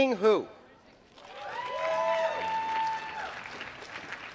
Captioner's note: applause